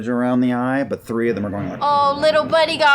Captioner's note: whooshing